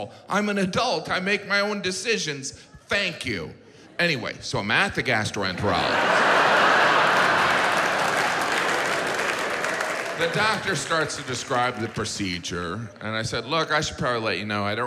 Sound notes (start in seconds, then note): 5.6 audience laughs; 5.7 audience applauds